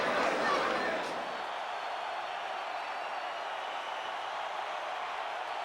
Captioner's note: spectators cheering